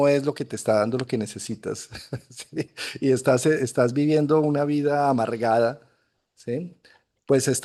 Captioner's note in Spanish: risas